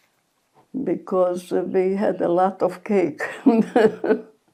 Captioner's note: laughing